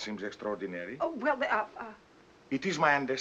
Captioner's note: stutters